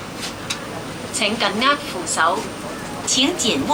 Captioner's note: Cantonese